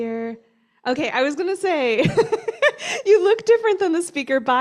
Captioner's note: laughter